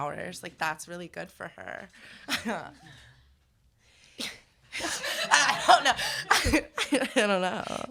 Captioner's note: laughter